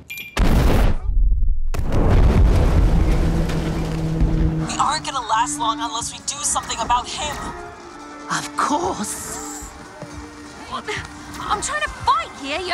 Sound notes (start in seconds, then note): 0.2 remote beeps; 0.4 boat exploding